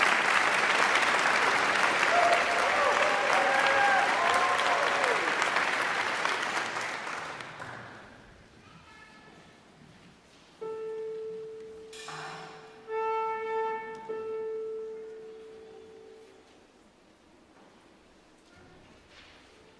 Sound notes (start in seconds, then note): 2.5 audience cheering; 10.8 bright music